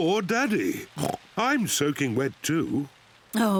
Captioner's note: sneezes; oinks